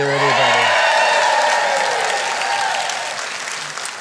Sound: applause

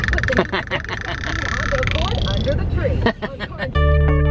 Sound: laughing; ambient music

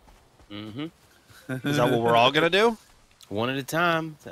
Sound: laughter

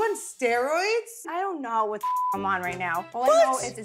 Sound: beep

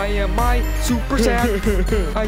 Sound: crying

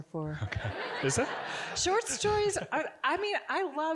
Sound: audience giggling

